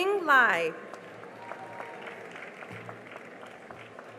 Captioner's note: cheering and applause